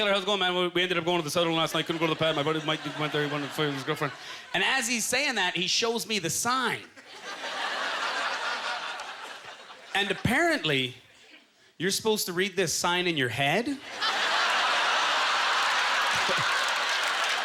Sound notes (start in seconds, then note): 2.8 talking fast; 6.9 audience laughter; 13.8 audience laughter